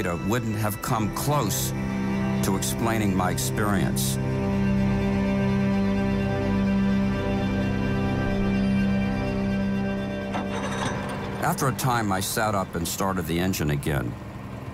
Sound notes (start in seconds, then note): 5.6 music echoes and fades; 10.0 boat engine revving